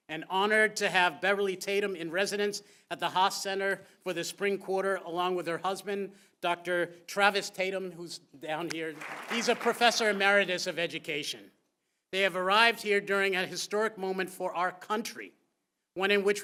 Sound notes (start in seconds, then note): 8.7 applause